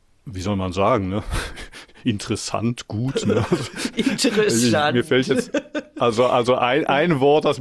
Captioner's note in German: gelächter